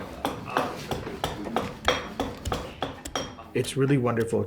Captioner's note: axe thumps